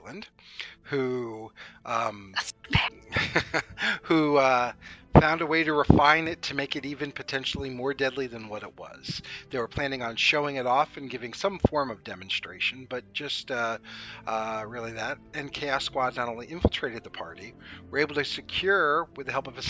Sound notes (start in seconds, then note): 2.3 quietly; 3.5 chuckles